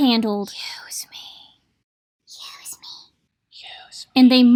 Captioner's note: whispering